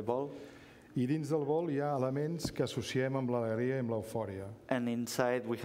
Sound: speaking catalan

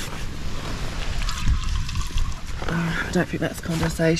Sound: squeezing water out

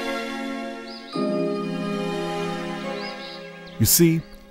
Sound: dramatic music; birds chirping

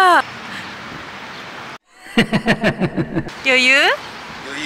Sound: laughs

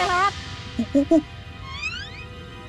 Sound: chattering

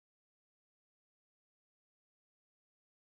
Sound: none

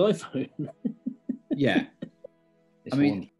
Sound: giggling

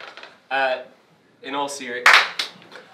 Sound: clap; clap

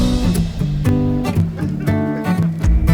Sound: laughter

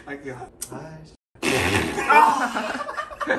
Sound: fart noise

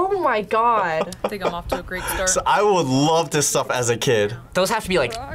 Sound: laughs

